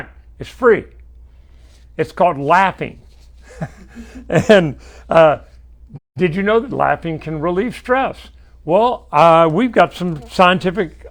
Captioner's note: laughs